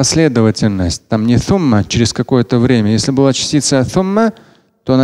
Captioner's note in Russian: говорит на арабском